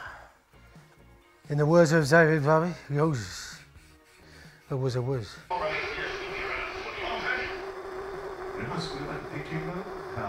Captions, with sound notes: In the words of Zowie Bowie, "Yowsers. "That was a whizz." (radio plays in the background)